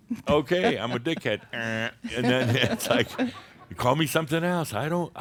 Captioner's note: more chuckles